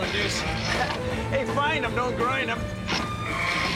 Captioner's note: gears grinding